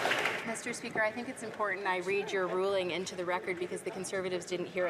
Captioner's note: some Applause